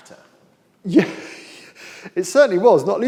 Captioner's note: laughs